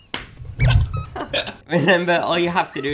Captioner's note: laughing; squeaking